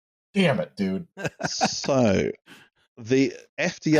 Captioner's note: laughs